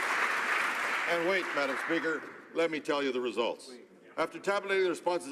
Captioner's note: some Applause